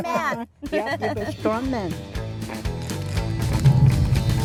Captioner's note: laughs